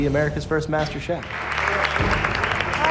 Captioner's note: cheers and applause